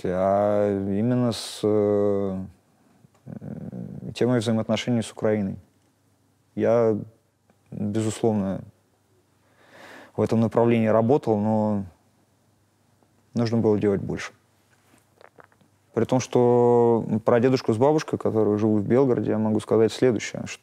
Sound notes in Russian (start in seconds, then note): none